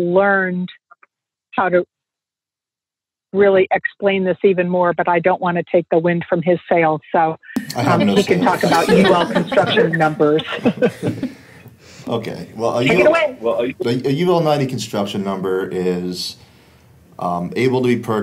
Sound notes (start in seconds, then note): 11.8 laughs